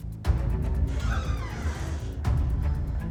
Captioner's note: door creaks